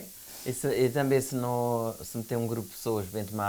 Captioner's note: speaking portuguese